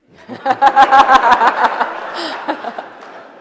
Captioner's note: laughter